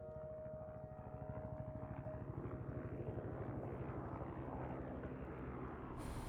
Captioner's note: rotating propellors